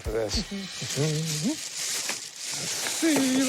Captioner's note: humming